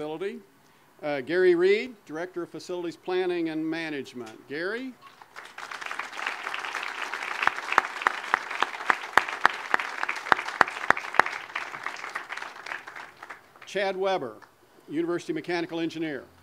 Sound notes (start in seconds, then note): 5.0 audience applause